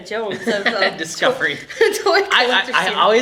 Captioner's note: laughter